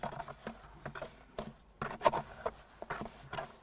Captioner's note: trowel scraping